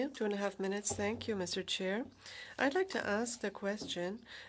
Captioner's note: speaking French